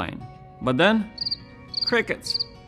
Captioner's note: crickets chirping